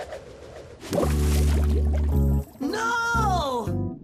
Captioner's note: splash! Gurgling